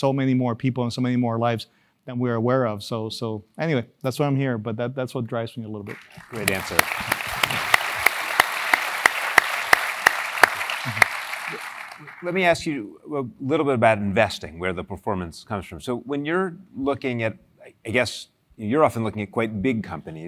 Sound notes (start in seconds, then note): 5.8 applause